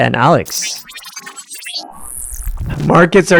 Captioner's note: machine whirring